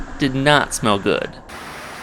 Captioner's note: wind blowing